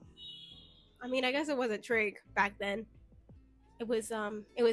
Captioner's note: car in Outside Honks